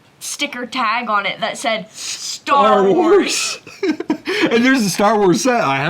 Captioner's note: laughs